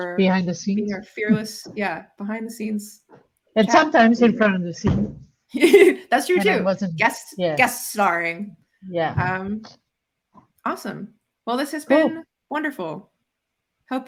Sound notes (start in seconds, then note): 5.6 chuckles